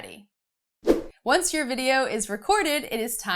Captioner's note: air whooshing